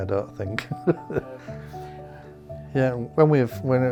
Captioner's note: laughs